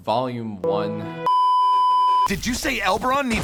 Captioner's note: beeeeeeeeeeeep